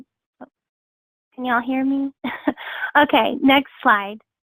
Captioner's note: chuckles